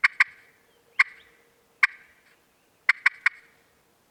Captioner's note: turkey calling